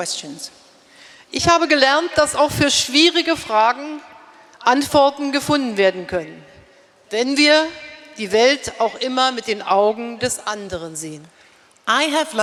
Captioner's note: speaking in German